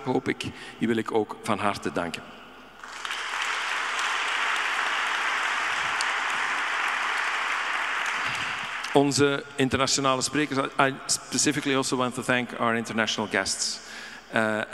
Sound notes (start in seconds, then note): 2.8 audience applauding; 8.7 speaking in Dutch